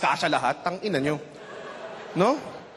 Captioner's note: laughter